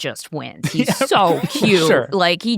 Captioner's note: laughs